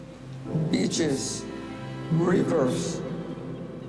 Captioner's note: words echo